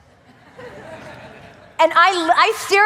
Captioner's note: audience laughing